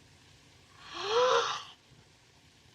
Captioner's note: gasps